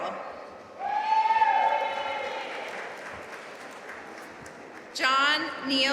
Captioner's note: audience cheering and applauding